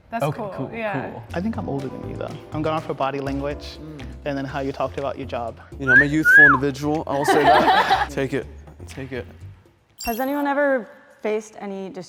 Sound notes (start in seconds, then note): 5.8 whistles; 7.1 all laughing